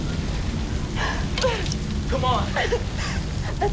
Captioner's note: sighs